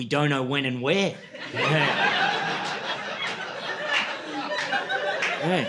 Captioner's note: laughter